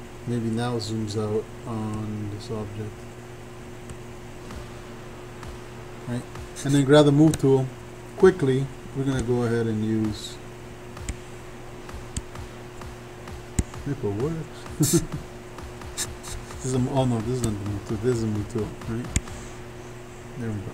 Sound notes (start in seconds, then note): 11.0 faint techno music; 14.7 laughs